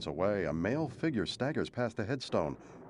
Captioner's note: thunder crashing